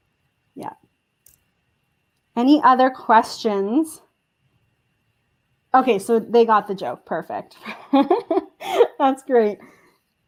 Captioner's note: chuckle